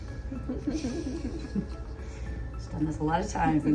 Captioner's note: giggles